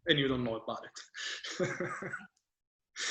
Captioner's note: chuckles